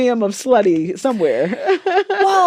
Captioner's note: laughter